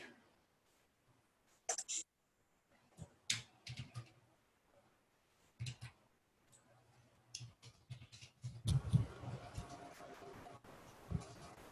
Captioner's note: typing On Screen